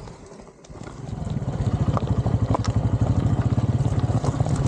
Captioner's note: tyres on gravel